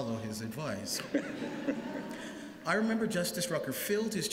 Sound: laughter

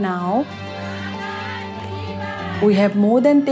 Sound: women chanting

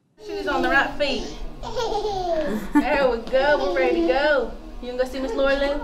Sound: little girl laughs loudly

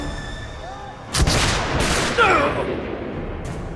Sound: gunshots

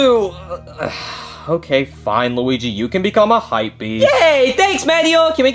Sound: sighs

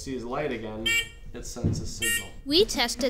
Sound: beeping

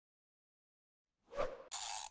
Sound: whoosh; gear winding

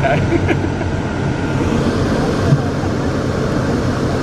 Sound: chuckling

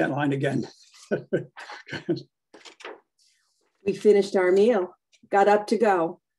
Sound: chuckles

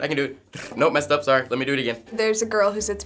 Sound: trills

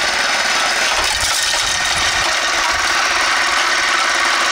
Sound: rocks pattering

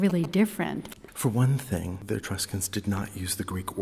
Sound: voiceover

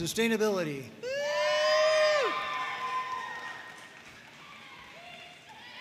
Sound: audience cheering and applauding

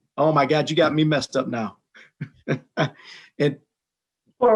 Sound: chuckles

